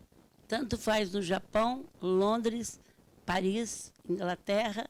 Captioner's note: speaking Portuguese